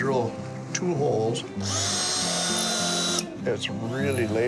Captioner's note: drill whirs